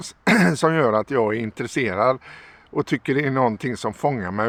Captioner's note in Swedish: harklar sig